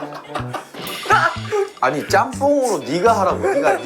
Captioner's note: dying of Laughter